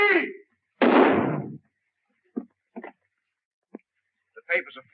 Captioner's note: gun firing